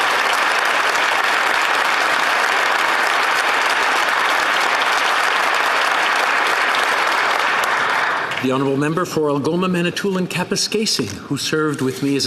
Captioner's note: applause